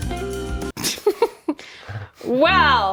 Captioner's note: funky music; laughing